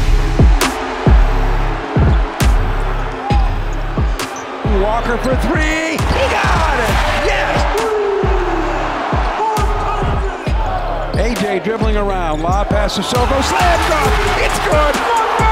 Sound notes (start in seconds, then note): 0.1 dramatic music; 4.2 shoes squeaking